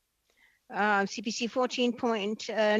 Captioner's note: speaking French